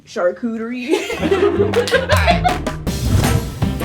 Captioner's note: all laugh; upbeat music